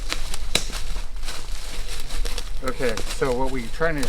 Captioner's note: branches snapping